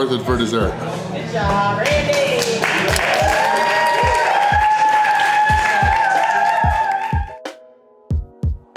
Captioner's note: crowd clapping and cheering